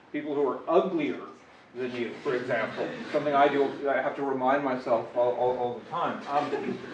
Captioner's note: laughter